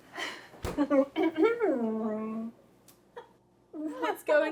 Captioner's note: Arlette clears throat